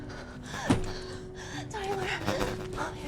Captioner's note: camera thumps